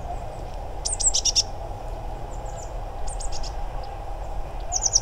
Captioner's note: Blue tit contact call